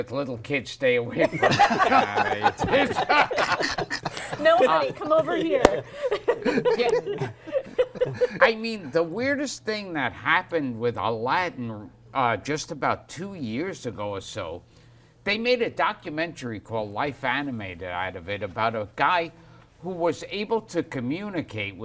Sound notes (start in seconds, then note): 1.2 laughter